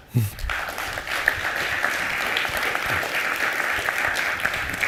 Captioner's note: applause